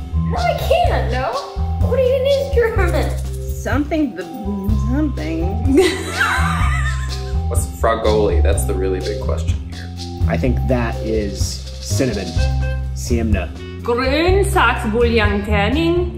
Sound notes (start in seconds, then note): 5.7 laughs